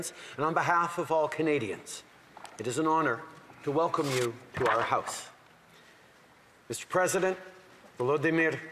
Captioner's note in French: voix de l'interprète